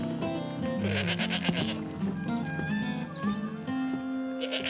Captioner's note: goat bleating